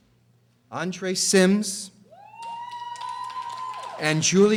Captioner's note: audience applauding and screaming